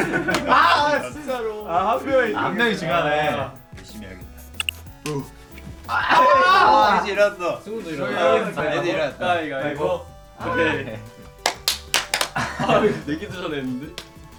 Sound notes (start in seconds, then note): 10.7 domino-style clapping